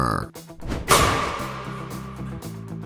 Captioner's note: impact